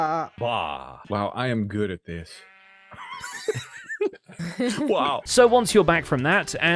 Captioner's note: group laughs; laughs